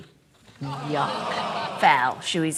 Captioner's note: audience groans